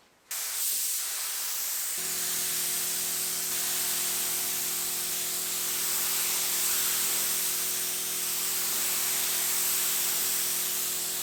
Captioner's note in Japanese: 塗装音